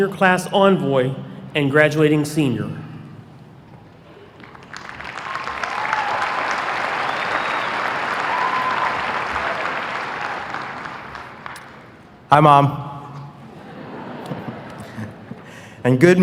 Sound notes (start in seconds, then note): 4.3 applause; 13.4 laughter